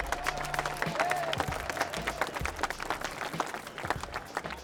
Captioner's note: applause